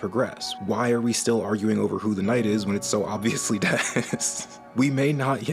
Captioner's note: laughing